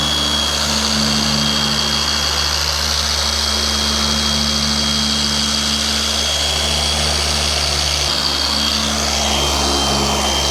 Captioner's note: polisher Noise